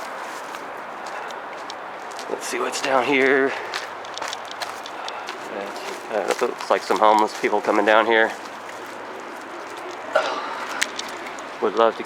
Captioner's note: footsteps